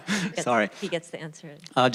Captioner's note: laughter